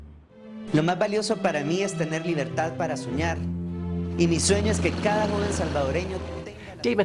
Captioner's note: speaking foreign language